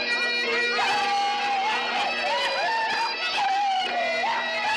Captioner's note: laughing, shouting